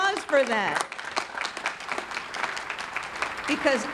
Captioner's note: audience clapping